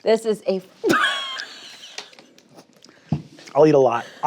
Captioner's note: laughs